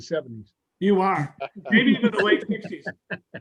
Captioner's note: chuckling